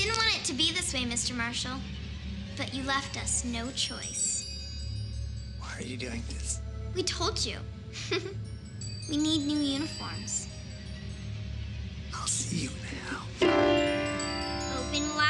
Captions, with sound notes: - We didn't want it to be this way, Mr. Marshall, but you left us no choice. - Why are you doing this? - We told you. (giggles) We need new uniforms. - I'll see you in hell. (piano chord plays)